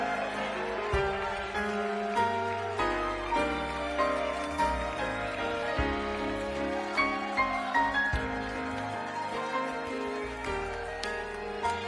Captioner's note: applause